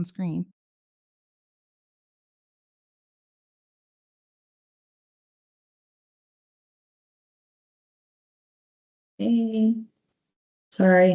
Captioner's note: silence